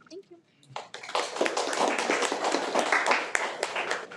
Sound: applauds

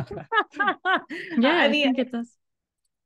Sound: laughing

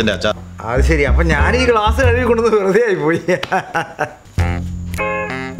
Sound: laughs

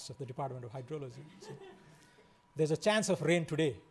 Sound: laughing

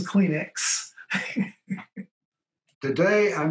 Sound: laughs

